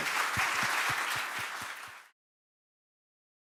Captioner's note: applause